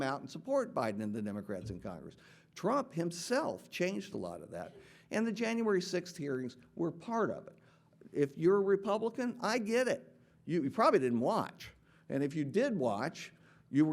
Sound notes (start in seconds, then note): none